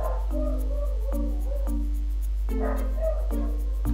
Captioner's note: they sound of dog barking